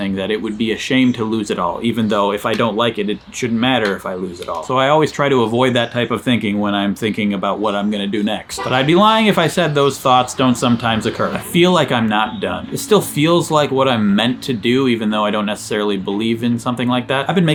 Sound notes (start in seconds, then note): 8.5 car honking